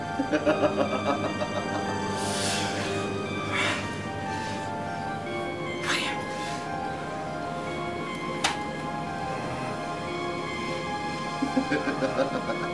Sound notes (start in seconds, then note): 0.1 laughs; 2.1 breathes heavily; 11.4 sinister laughter